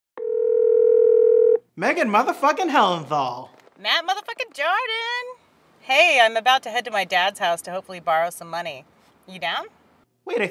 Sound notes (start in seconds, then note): 0.2 phone ringing